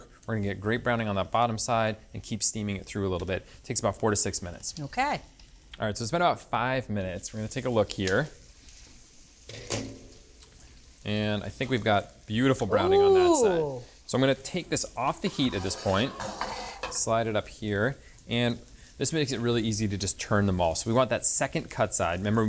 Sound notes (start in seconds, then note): 9.5 pan lid clatters; 15.2 pan scraping